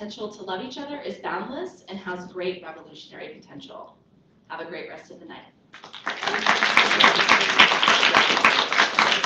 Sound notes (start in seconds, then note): 5.7 applause